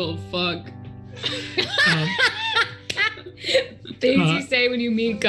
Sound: group laughs

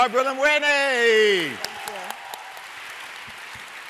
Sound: applause

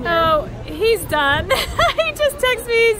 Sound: laughing

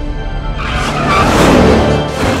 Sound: racing sound; screeching tire sound

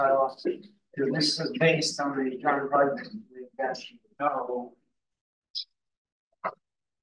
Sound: audio distorting

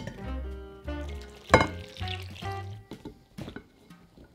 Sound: liquid pouring

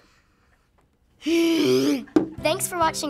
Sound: grumbles

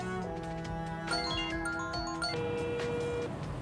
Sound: mobile ringing

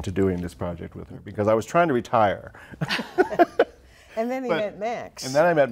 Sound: laughs

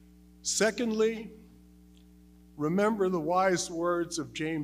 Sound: none

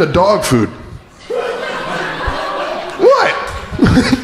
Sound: crowd laughing

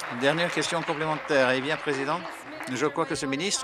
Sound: applause

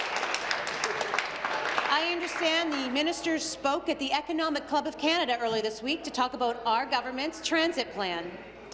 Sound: applause

